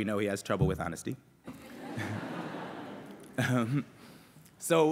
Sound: laughter

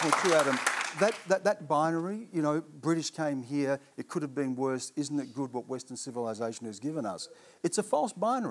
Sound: applause

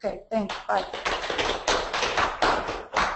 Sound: claps

